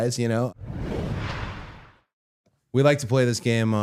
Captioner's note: title whooshing